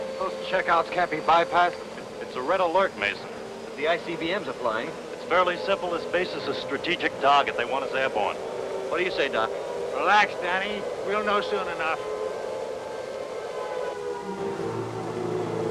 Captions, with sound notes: - Those checkouts can't be bypassed. - It's a red alert, Mason. - The ICBMs are flying. - It's fairly simple. This base is a strategic target. They want us airborne. - What do you say, Doc? - Relax, Danny. We'll know soon enough. (air siren blaring)